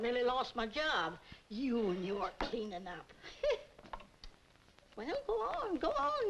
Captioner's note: scoffs